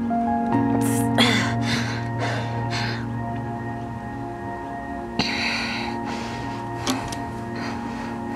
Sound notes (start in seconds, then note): 3.0 Heidi breathes heavily